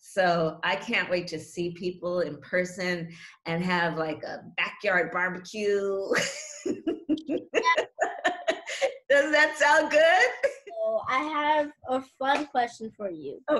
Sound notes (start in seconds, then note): 6.6 laughs